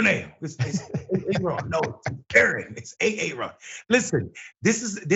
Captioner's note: laugh